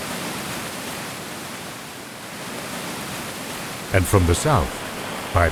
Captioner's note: water rushing